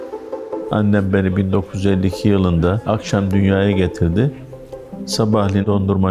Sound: speaking in foreign language

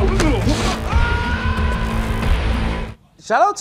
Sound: screaming

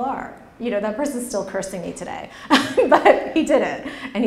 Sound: laughs

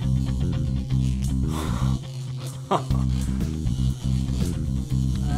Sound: gasps with glee, chuckles in anticipation

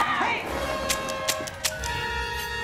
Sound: clicking

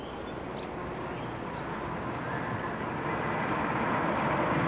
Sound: hearse whooshing

